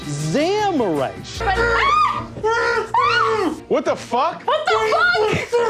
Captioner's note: screams; muffled screaming through cloth; continues muffled screaming